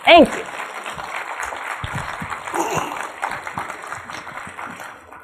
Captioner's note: audience applauding